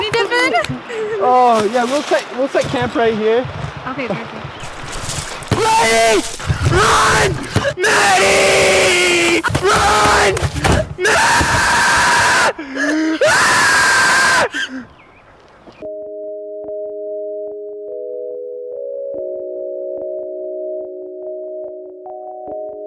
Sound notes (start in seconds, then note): 5.5 man screaming; 12.4 loud screaming; 15.8 soft music playing